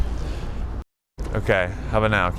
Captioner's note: audio pops